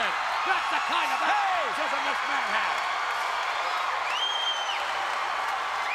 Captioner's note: audience cheering and clapping